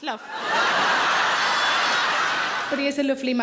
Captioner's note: audience laughing loudly